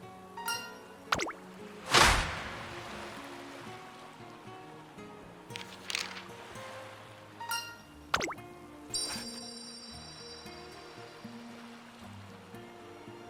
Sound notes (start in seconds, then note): 1.8 crack*!